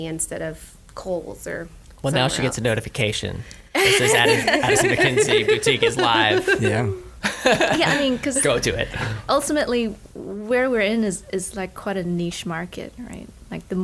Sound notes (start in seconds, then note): 7.2 laughter